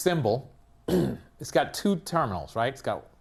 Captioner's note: cough